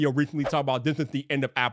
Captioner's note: screen whooshing